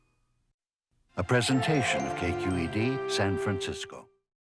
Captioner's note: voiceover